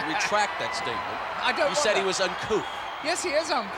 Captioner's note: laugh